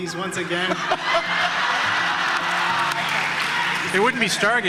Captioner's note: audience laughter and cheering